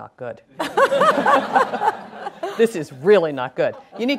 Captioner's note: laughing